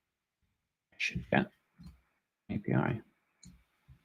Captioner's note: mumbles